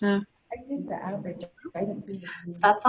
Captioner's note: woman murmurs